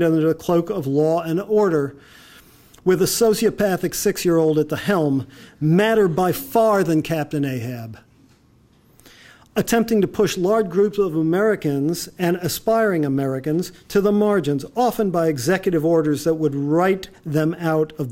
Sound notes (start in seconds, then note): none